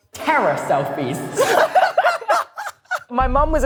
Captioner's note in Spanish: risas